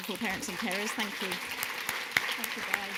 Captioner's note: audience clapping